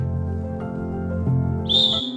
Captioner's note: whistle